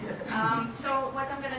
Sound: laugh

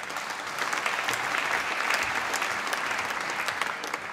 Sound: applause

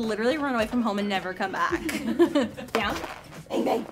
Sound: laughs

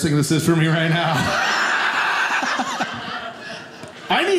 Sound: audience laughing

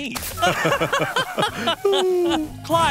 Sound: laughing

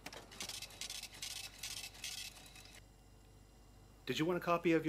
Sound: register buzzes

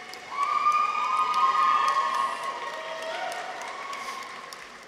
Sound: audience members cheer

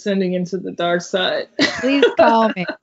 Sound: laughs

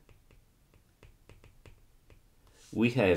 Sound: screen tapping

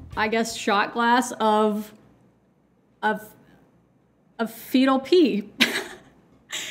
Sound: chuckles

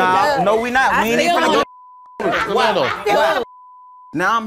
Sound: beep

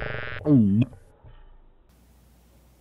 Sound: buzzing; gulping

